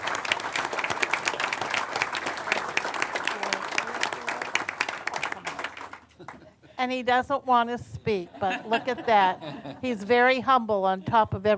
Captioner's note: applause